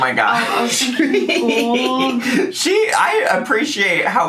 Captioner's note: laughing